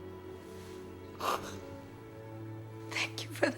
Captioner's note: sobbing